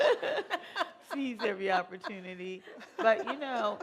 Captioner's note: laughter